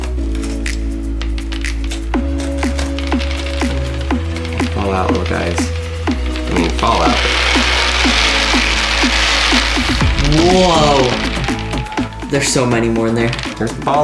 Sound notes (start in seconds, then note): 0.1 pulsing techno music; 7.9 beads falling on cardboard